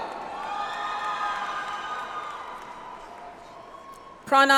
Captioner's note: audience applauds